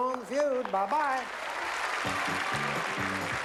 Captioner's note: applause